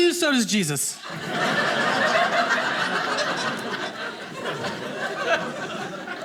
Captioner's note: audience laughing